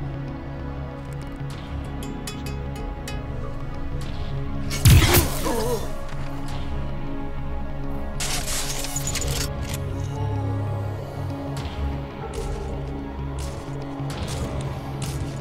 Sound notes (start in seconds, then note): 4.7 gunshot; 7.9 mechanical sound